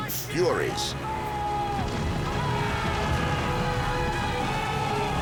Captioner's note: shouting